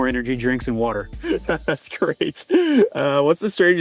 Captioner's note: laughs